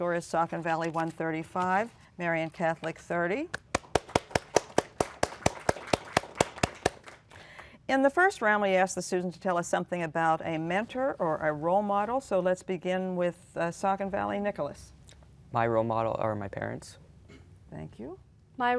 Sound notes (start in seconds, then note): 3.7 applause